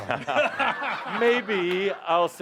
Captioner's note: laughter